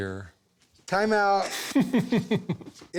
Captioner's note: laughs